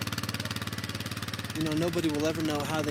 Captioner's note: engine roaring